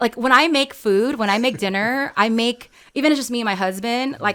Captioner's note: laughs